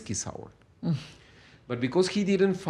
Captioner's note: laughs